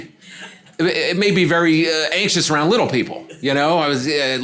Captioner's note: audience laughing